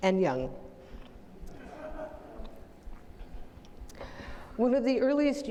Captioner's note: audience laughing